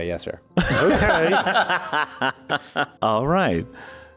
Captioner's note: laughter outbreaks